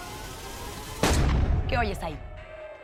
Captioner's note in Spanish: Disparo